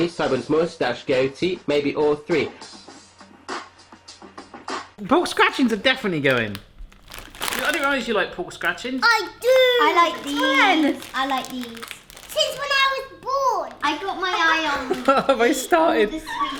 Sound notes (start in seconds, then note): 5.3 bag crinkles; 14.4 laughing